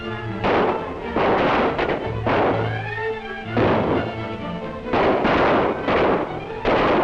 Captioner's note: gunshots